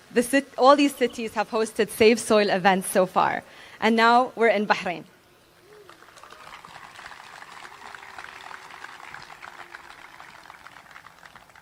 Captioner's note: applause